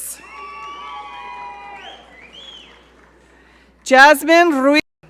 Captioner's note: audience cheering